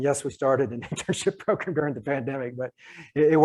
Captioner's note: laughs